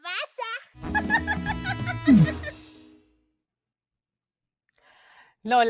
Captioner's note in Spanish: risas